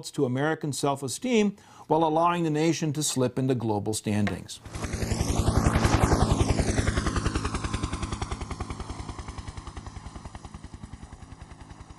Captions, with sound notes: to American self-esteem, while allowing the nation to slip in the global standings. [HELICOPTER FLYING]